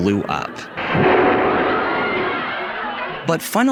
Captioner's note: bomb exploding